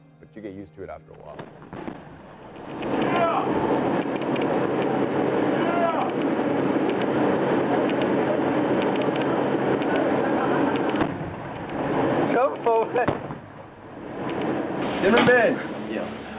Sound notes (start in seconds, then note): 2.5 explosions booming; 10.9 explosion booms